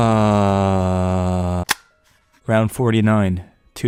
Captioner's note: tape recorder turns on